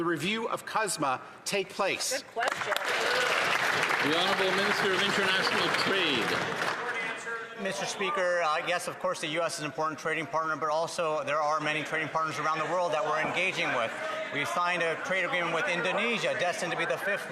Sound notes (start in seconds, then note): 7.3 some Applause